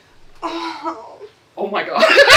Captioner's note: lusty moan